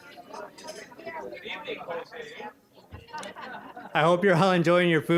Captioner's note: general chatter